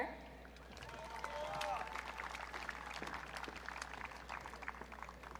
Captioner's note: audience cheering